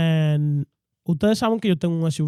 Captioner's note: speaking In Foreign Language